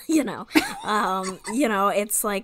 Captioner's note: laughs